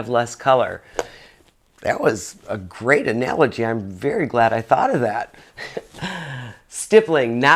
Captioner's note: laughs